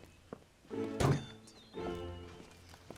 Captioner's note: metallic clatter